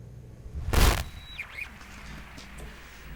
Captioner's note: radio static